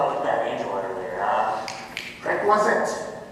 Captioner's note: havik snaps fingers